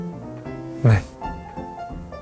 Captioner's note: gulp